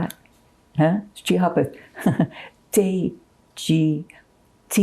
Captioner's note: laughing